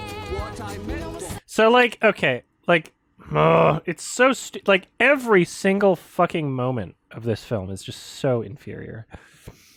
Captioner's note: slight stammer, grunt